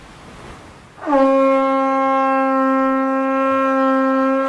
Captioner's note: conch shell blast